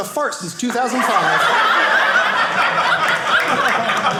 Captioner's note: audience laughing